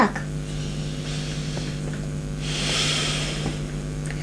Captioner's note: breathing